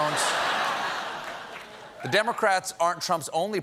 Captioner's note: laughter